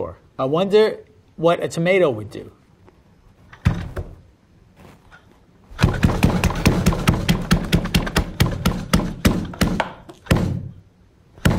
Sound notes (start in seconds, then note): 5.8 machine rattles